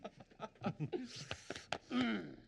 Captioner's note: laughing